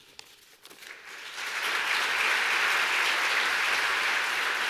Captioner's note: applause